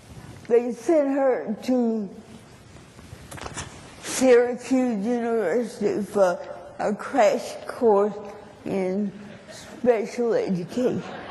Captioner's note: laughter